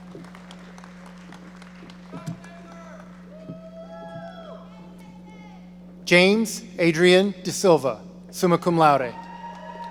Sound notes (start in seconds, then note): 0.0 audience applauding; 4.8 shouting from audience